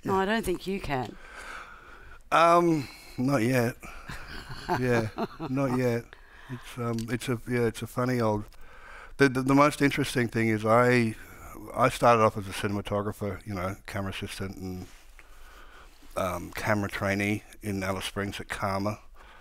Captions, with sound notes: - No, I don't think you can. - Not yet. Yeah, not yet. (Margaret laughing) It's a, yeah, it's a funny, old, the most interesting thing is, I started off as a cinematographer, camera assistant and camera trainee in Alice Springs at CAAMA.